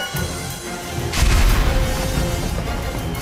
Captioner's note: orchestral music; Lightning explodes